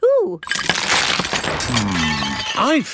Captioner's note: cracking